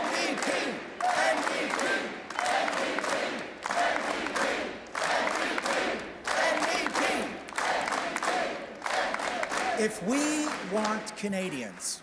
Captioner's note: chanting